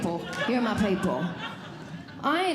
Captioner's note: audience Laughing